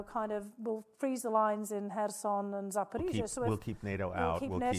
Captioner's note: speaking foreign language